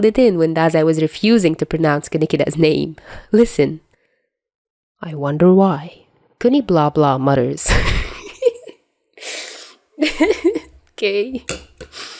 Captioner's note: laugh track